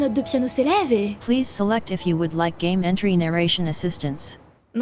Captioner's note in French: voix robotique de la narration audio